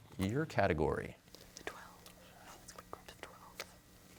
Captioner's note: whispering